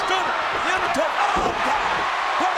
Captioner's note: crowd cheering